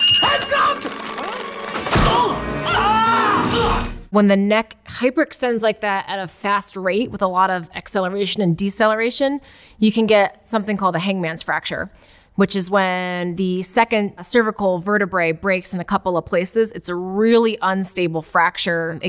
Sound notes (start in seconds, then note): 0.0 bell dings; 2.7 Marv grunts